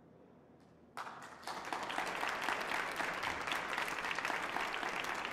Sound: audience applauding

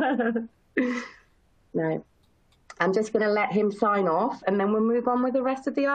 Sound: chuckles

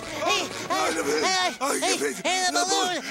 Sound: stammering

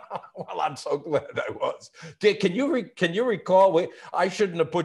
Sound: laughing

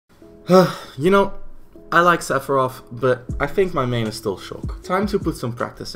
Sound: sigh

